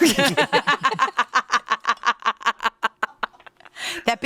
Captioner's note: all laugh